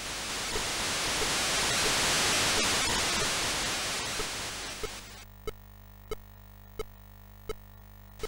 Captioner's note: in-game sounds